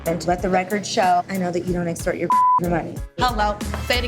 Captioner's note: beep